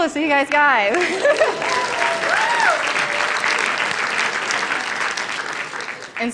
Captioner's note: applause